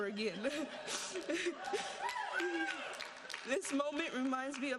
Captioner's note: audience laughing and applauding